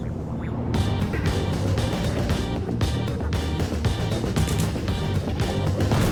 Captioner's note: explosions booming; energetic music